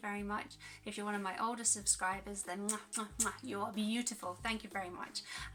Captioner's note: kiss